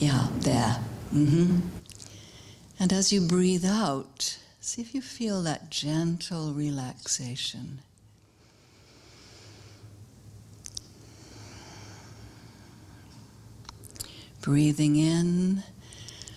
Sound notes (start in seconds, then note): 8.3 sound of exhalation; 8.3 sound of inhalation